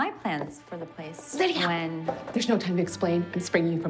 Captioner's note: whispering